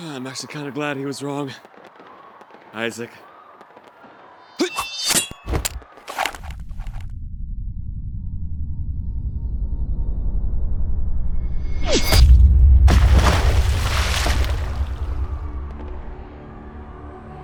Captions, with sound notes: I'm actually kind of glad he was wrong, Isaac. (dramatic music) (gun firing) (dramatic music)